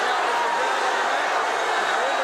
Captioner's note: crowd cheering